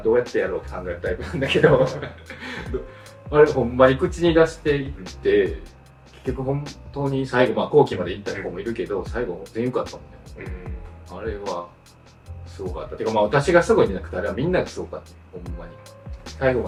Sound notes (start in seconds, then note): 5.6 laughs